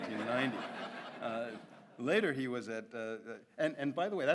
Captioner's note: audience laughs